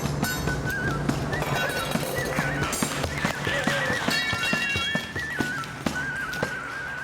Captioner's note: tools clanking; clapping